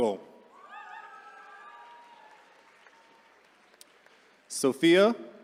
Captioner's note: attendees cheering